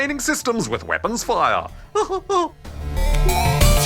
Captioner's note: laughs